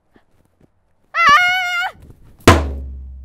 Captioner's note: Ana shouting; loud banging sound